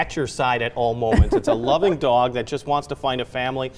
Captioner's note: laughs